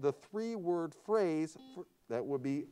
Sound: buzzer sounds

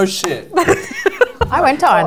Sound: laughter

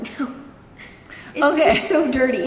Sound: both giggling

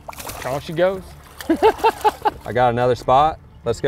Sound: laughs

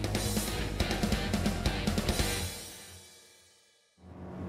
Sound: motor running

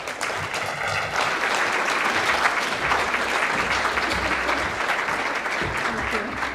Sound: applause

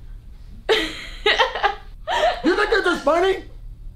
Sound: Savannah laughing

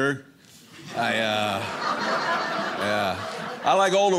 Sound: audience laughing

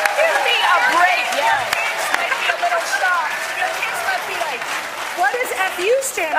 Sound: applause

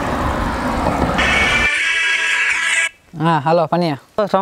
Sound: phone Ringing

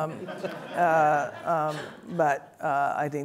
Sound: audience laughs

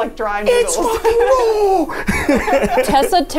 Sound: laughs

